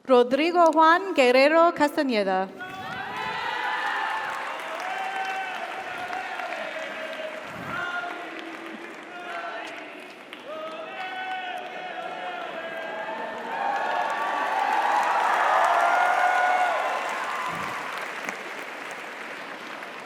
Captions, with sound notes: Rodrigo Juan Guerrero Castaneda. (audience applauds) (audience cheers)